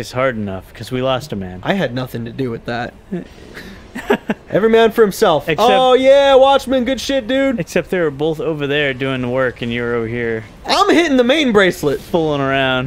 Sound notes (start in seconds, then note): 3.9 laughter